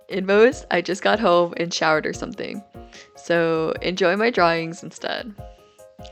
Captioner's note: none